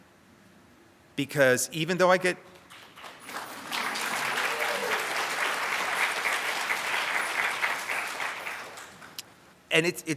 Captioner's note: audience applauds